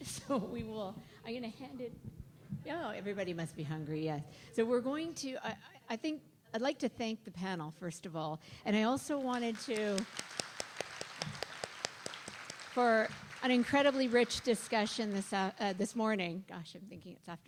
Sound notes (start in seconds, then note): 9.2 applause